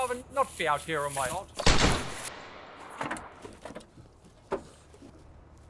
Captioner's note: gunshot whooshes